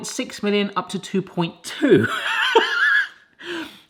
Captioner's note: laughs